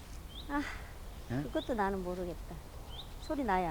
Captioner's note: sigh